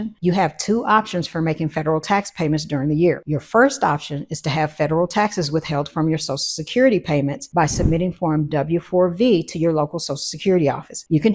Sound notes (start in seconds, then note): 7.6 wind whooshing